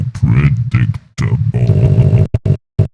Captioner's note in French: balbutiements robotiques, alors qu'il s'arrête